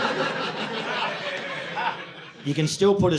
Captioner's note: audience laughing